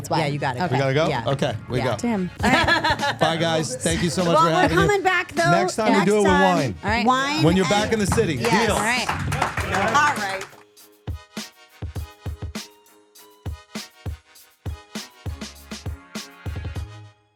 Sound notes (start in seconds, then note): 2.4 Steph laughing; 10.4 upbeat music